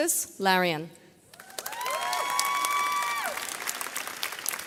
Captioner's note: audience cheers